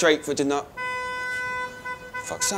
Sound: car horn blaring

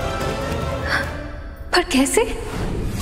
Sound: gasping; tense music playing

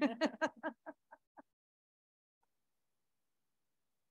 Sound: board members laughing

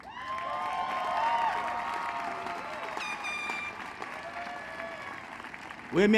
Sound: applause

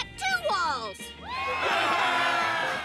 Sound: cheering

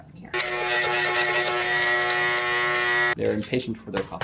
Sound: grinder whirring

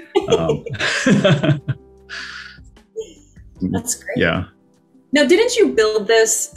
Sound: laughs

